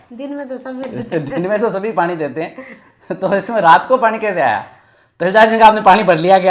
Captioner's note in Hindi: हंसी